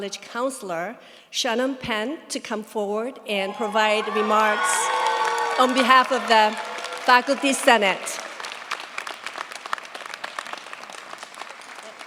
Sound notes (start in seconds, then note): 4.6 cheers, applause; 8.0 applause